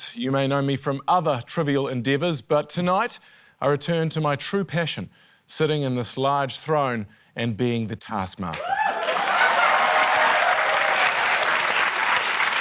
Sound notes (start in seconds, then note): 8.5 cheering, applause